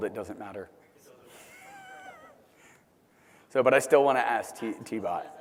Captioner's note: laugh